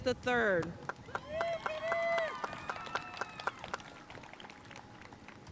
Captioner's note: audience cheering and applauding